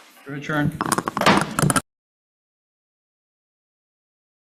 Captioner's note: gavel bangs